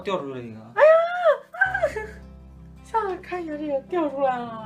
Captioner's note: my Sis screaming in HORROR